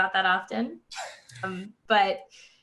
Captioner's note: all laughing